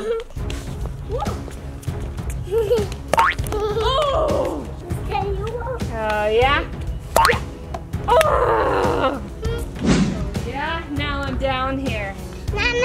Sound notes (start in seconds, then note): 0.3 bouncing; 0.3 giggling; 4.0 mom groans; 7.2 bouncing; 8.1 mom groans